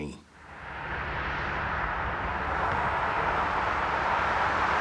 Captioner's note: cars driving